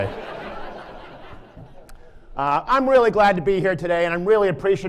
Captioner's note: laughter